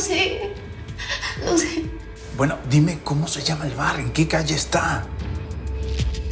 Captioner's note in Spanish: Sollozos